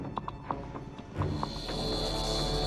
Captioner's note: zapping